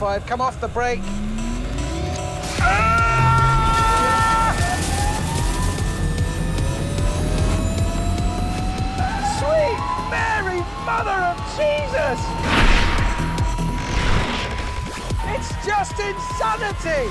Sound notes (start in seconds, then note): 0.5 energy pulses; 2.6 screams; 3.8 energy pulses and whines; 8.9 tyres screech